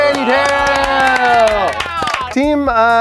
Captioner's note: all cheering